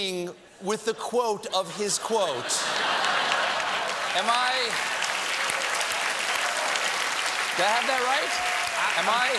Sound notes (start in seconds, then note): 2.7 applause